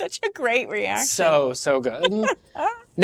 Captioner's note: laughs